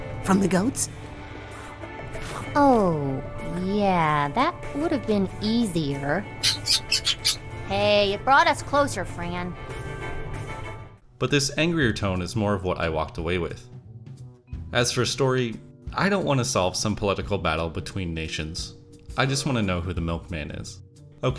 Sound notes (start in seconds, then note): 6.4 angry chattering